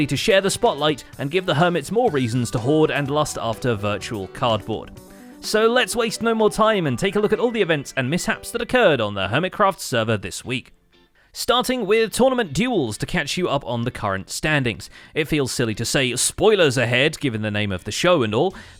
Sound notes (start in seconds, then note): none